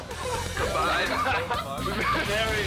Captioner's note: roommates laughing